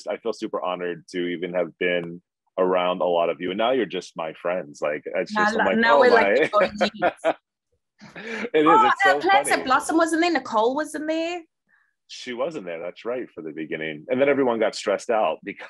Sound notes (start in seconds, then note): 7.6 laughing